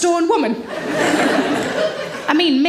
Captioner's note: audience laughs